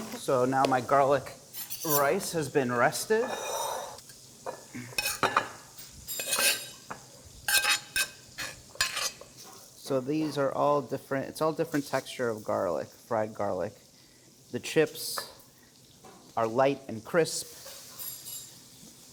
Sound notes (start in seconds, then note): 5.1 scraping